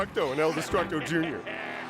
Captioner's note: laughing